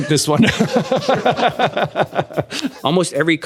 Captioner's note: laughter